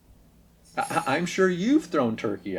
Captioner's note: laughs